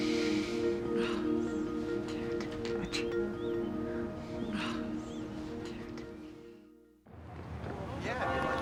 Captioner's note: sighs